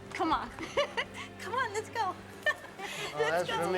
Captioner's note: chuckling